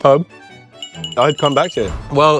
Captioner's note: bell rings